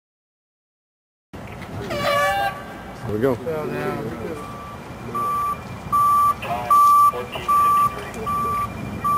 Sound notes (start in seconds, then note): 1.9 horn blows; 5.3 traffic noise